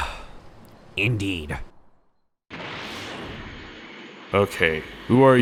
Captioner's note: sigh